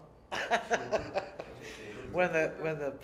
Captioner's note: laughter